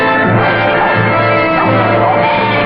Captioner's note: barking and bleating